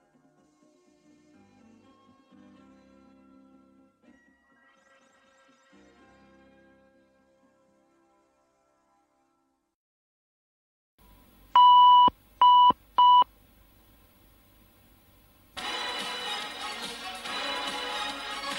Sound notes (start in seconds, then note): 11.5 beeping sounds; 15.6 80s music playing